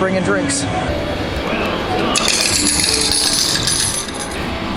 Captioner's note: coins falling